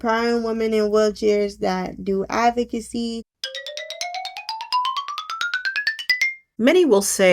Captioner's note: cartoon Ascending Sound Effect